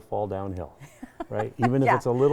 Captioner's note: laughing